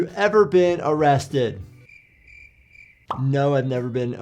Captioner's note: crickets chirping